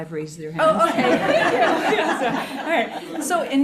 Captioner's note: everyone laughing